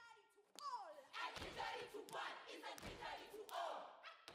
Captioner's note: chanting